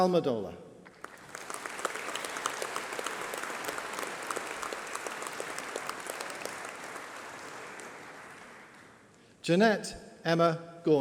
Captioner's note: applause